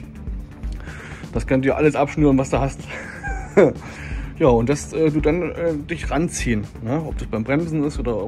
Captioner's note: laughs